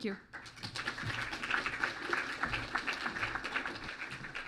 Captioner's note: clapping